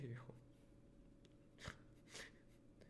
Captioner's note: laughs